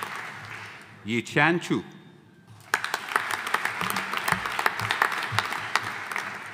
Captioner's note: audience applauding